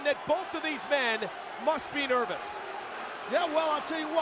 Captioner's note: crowd cheering